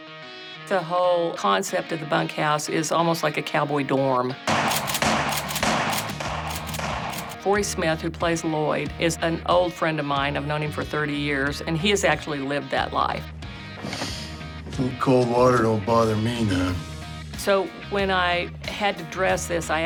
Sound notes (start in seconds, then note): 4.4 gunshots; 13.8 sharp inhale